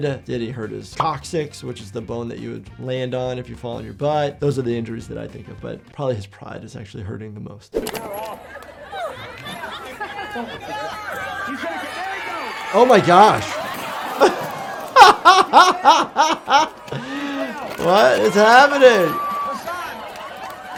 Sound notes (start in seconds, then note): 9.0 crowd laughing; 14.0 crowd; 15.2 laughs